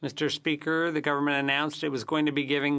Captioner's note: speaking French